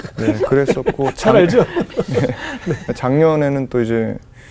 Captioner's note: laughing